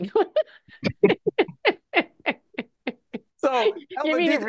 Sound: laughing

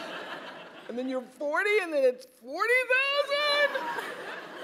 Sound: laugh

